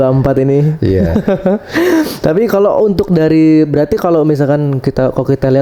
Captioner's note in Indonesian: tertawa